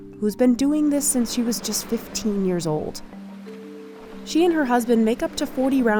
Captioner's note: none